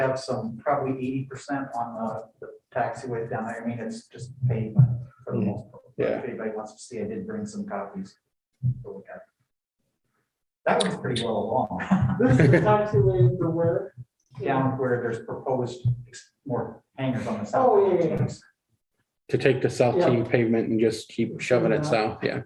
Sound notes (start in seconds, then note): 11.8 laughter